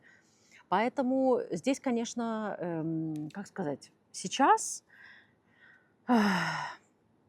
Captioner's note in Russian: вздыхает